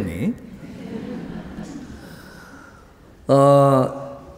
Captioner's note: audience laughs